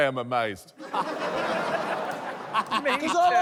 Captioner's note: laughter